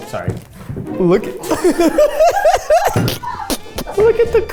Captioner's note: laughs